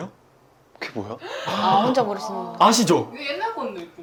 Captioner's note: groans everywhere